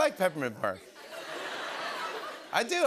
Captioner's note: laughter